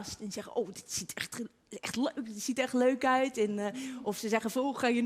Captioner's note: Amsterdam accent